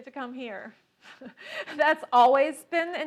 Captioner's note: laughing